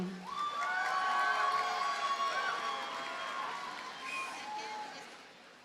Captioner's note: audience cheers and applauds